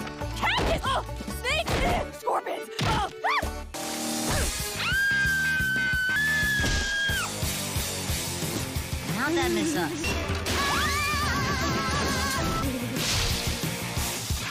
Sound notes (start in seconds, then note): 10.8 screams in mop bucket